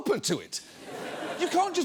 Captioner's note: audience laughs